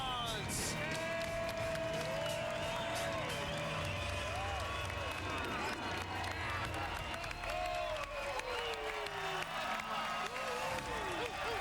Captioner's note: cheers and applause